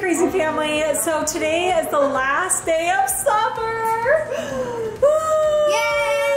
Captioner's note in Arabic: تنهدات